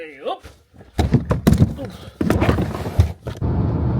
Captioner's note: case clunks; tyres murmur